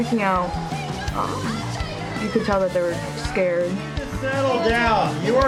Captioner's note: students shouting